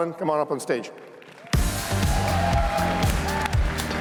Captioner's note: cheers, applause